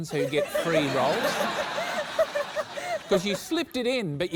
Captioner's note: laughter